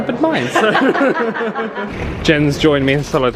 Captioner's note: both laughing